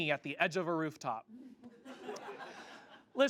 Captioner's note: audience laughs